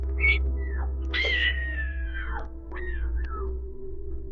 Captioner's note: screaming